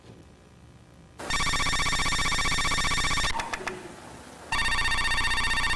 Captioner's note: telephone ringing